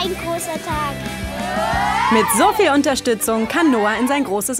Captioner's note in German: Jubelrufe